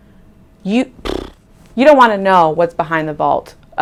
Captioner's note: blowing raspberry